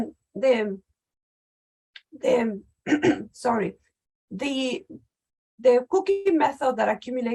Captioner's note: clears throat